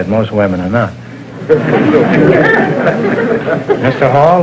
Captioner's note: audience laughter